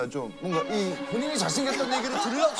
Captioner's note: holding in laughter